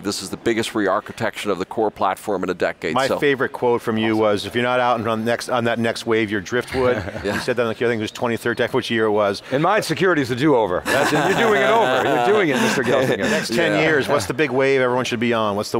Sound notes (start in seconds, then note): 10.8 Pat laughs